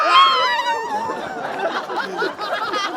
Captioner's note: grunting; laughter; applause